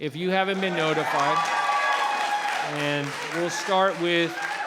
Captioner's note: cheering and applauding